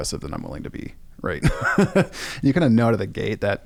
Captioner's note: laughs